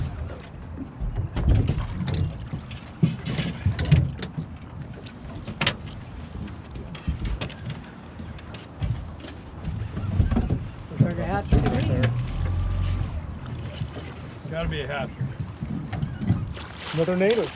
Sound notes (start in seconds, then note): 0.0 boat engine idling; 2.2 clattering; 13.0 boat engine idling